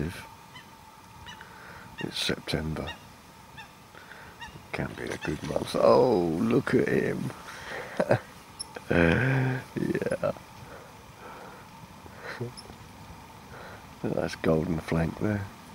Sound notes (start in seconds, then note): 7.6 laughing